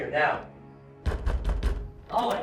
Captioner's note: knocking on door